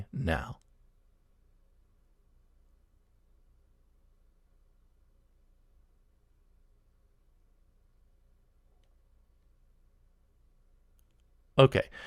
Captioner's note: pause